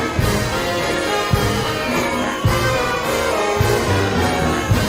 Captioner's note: applause